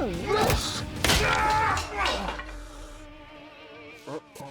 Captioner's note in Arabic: يضرب، يصرخ